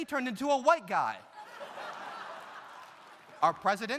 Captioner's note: audience laughs